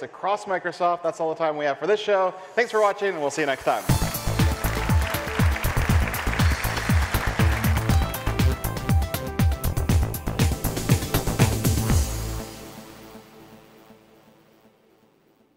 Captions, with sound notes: across Microsoft, that's all the time we have for this show. Thanks for watching and we'll see you next time. (upbeat techno music) (applause) (upbeat techno music)